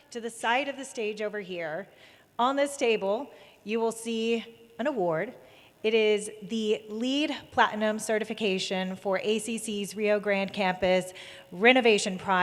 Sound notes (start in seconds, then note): none